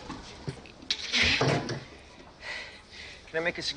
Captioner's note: both groaning